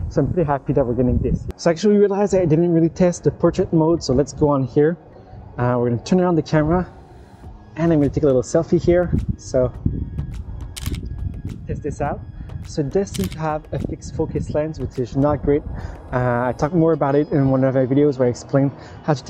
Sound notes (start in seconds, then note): 10.7 camera clicking